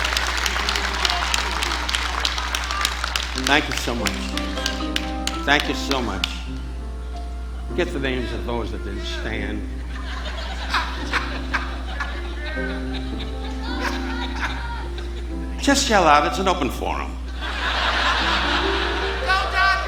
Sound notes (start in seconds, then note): 9.5 audience laughing; 11.8 audience members shouting; 17.2 audience laughing